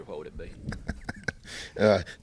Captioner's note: laughs